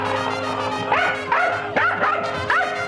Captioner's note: yapping